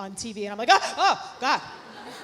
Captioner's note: gasping; audience laughs